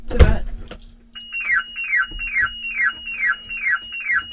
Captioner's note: alarm screeching